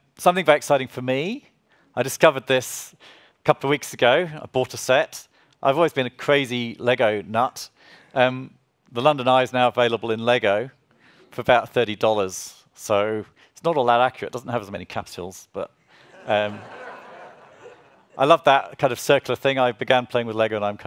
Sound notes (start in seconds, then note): 16.0 audience laughs